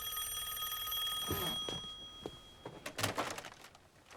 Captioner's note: rings